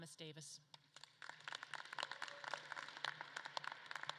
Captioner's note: audience claps